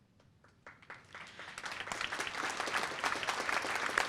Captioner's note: applause